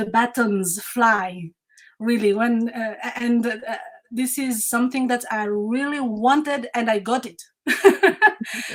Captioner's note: laughs